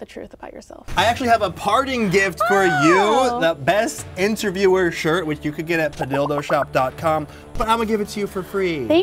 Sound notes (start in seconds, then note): 2.3 exclaims